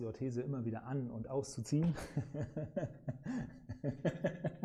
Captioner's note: laughs